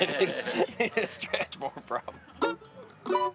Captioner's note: both laughing